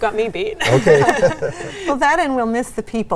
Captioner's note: all laugh